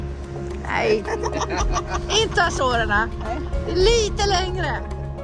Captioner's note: laughter